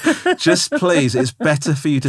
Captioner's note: laughing